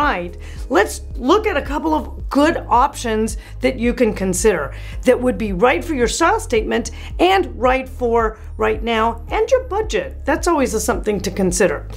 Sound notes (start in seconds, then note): none